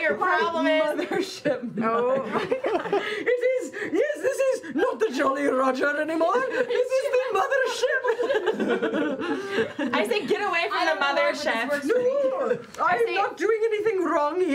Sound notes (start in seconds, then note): 6.2 laughter